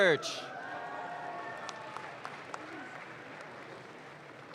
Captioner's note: audience claps